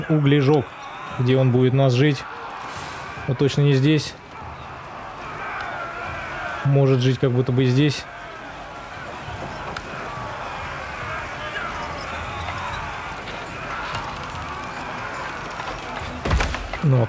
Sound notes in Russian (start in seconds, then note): 0.0 крик; 8.0 крик